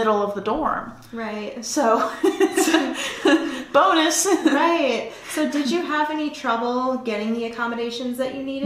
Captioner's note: laughter